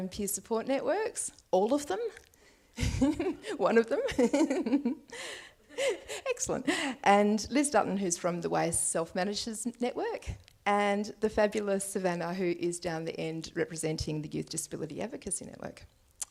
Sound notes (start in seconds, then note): 5.8 laughs